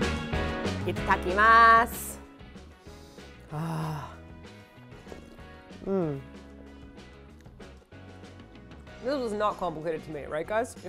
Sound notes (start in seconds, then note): 2.8 sniff; 4.9 slurp